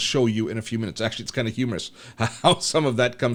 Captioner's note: laughs